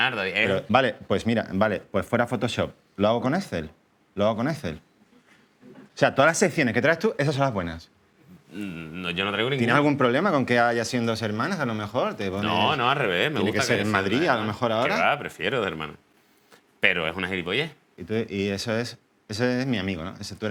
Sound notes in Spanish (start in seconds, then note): none